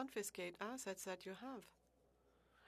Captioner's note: speaking French